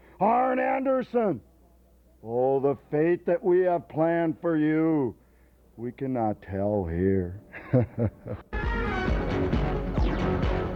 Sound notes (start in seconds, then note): 7.5 laughs; 8.5 lively music